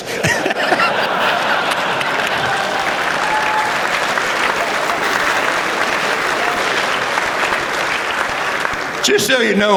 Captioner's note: laughter